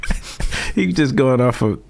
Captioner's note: laughing